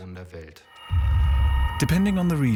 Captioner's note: eerie noises